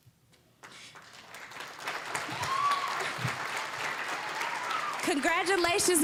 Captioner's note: applause, cheering